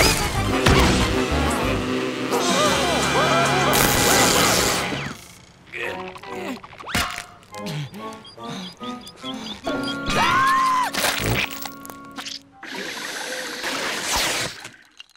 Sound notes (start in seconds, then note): 0.0 buzzing; 5.8 grunting; 7.6 panting; 10.1 screaming